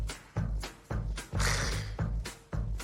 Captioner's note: scoffs